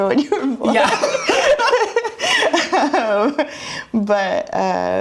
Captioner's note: both laugh